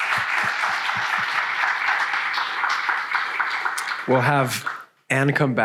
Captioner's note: audience applauds